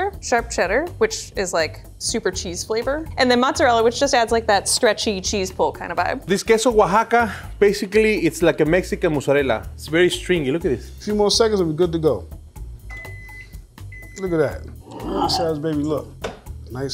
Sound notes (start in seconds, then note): 12.8 microwave beeping